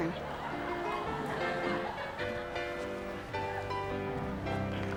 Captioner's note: audience applauding